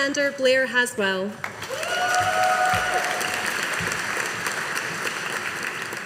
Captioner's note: audience applauding